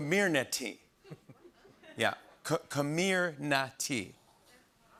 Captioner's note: smattering of laughter